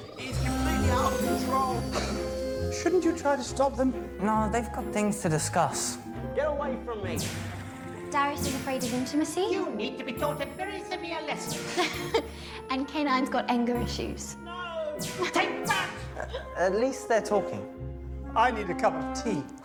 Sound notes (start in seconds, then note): 16.0 shooting